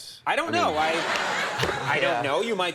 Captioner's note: crowd laughing